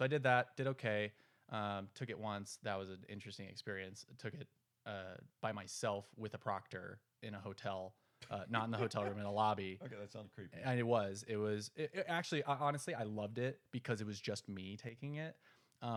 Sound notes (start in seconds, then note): 8.6 laughs